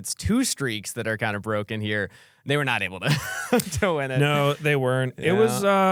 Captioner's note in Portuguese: risos